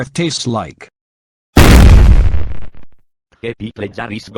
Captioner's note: gunshot